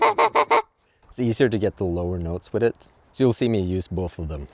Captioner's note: geese honking